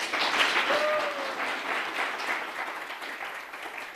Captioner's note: crowd applauds